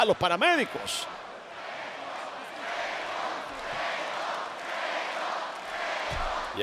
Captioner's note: applause